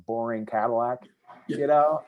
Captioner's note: laughs